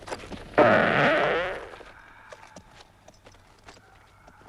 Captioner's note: Torente farts